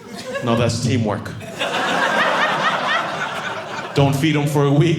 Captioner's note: audience laughing